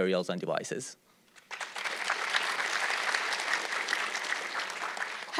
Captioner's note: audience clapping